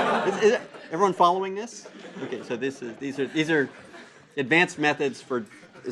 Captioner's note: laugh; laugh